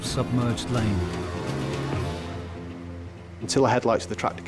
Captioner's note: intense music; tractor droning